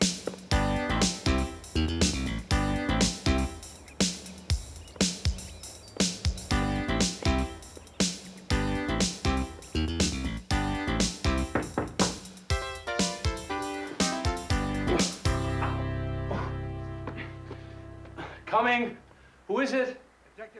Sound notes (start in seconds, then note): 11.4 knock at door; 14.5 groans